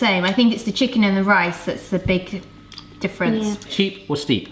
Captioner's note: none